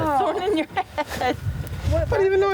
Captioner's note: laughing